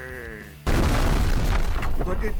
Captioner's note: explosion